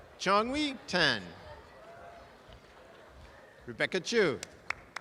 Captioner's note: audience applause